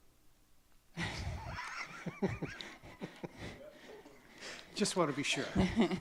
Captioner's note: laughing